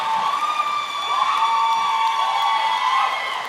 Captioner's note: applause